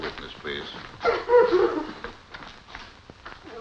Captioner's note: crying